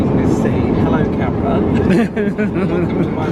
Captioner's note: laughs